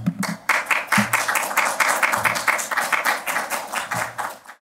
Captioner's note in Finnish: Aplodeja